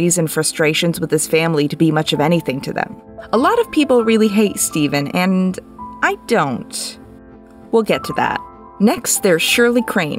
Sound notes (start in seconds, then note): none